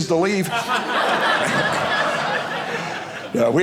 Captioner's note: audience laughing